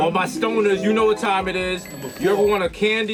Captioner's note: alarm clock rings; harp shimmers